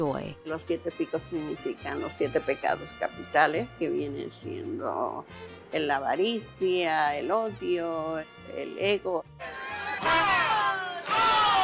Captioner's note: speaking Spanish